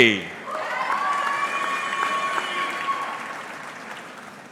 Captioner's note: audience clapping